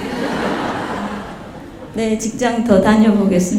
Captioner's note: audience Laughter